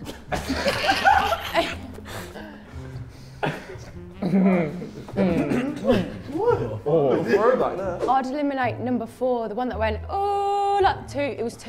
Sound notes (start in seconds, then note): 0.0 Sidemen laugh; 5.2 clears throat